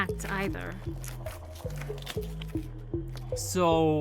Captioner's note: Mowgli crunching food